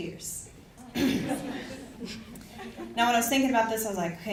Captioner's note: audience chuckles